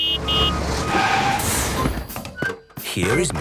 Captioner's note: honking, engine revving